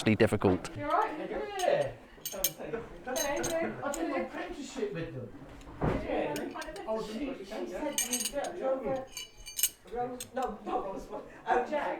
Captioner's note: background pub chatter